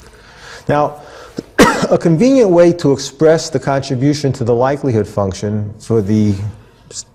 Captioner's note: cough